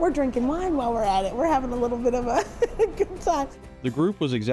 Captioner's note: laughs